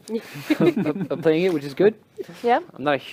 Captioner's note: laughter